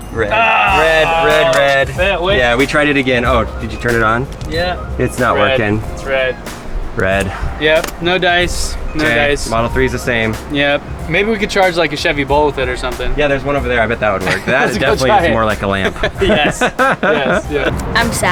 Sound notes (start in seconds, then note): 13.8 laughs